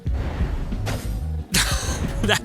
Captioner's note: laughs